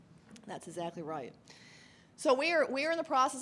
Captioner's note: voiceover